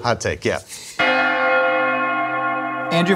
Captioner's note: bell Ringing